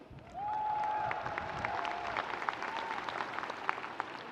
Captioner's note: audience cheering